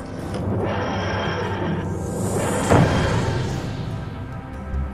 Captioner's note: TARDIS arrival sound